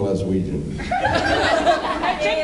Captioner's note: laughs